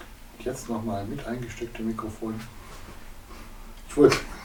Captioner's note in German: Aus dem Off